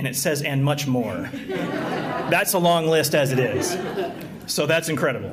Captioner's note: laughter